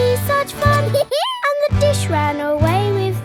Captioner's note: dog laughs